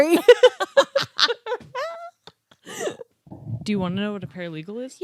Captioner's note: laughing